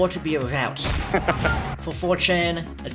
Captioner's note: laughing